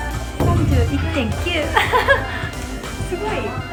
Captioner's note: laughs